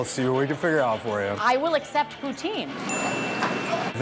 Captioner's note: bell dings